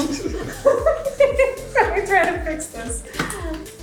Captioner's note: laughing